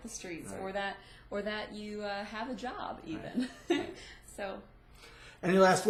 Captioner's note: laughs